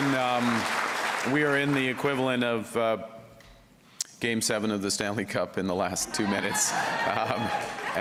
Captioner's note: applause; cheers